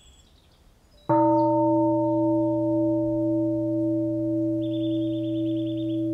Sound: bell

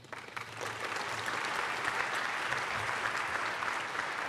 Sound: applause

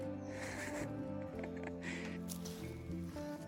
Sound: laughter

